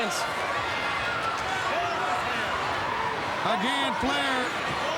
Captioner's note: crowd cheering